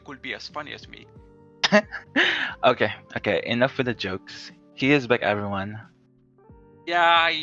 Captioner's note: chuckles